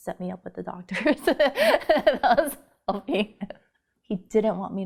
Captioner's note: laughing